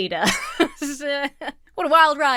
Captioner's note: laughs